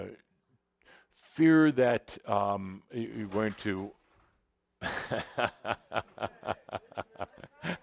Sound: some equipment suddenly crashes to the floor, Adamus chuckles

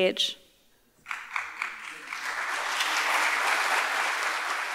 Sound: audience applauding

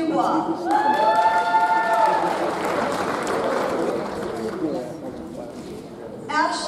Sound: audience cheers; audience applauds

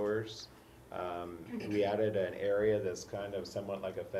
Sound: cough

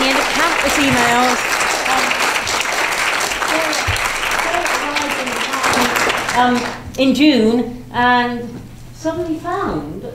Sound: applause

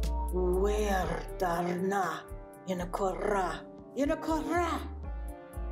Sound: speaks in foreign language

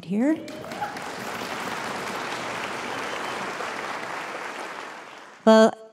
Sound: applause

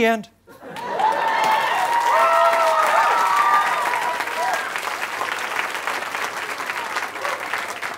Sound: cheering, applause

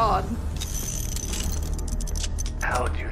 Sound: revolver Chamber Spinning

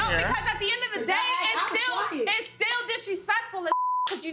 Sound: beep

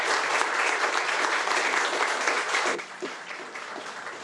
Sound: attendees applaud

